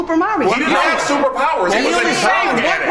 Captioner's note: overlapping chatter